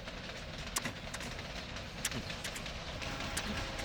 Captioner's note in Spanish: Imita el sonido del tren